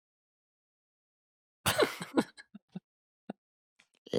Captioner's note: laughter